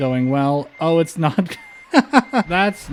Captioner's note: laughter